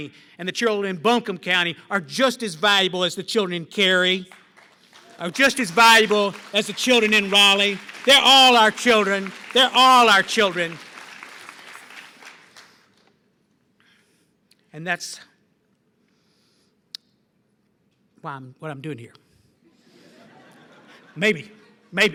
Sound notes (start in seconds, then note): 10.7 applause; 19.7 laughter